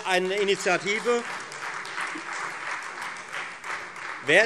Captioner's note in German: Beifall